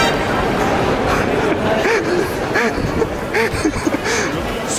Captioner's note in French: Rires